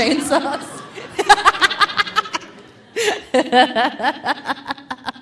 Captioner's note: laughing